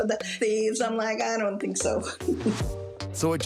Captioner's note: chuckles